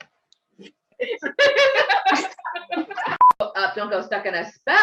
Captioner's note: all laughing